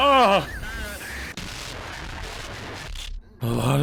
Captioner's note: distorted sounds